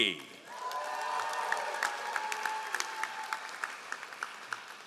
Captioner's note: all applauding